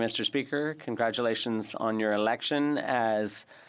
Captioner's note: speaking French